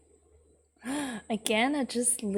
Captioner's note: gasps